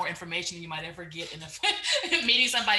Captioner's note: chuckles